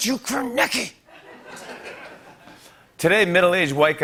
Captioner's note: laughter